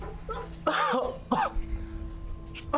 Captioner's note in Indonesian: suara batuk-batuk